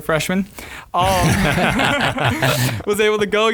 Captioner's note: all laughing